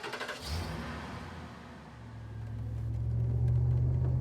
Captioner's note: car engine starting